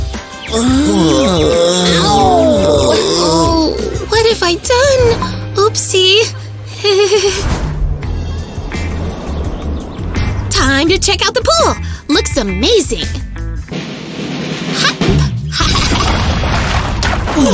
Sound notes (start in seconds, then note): 1.0 nervous laughter; 9.8 screaming and shouting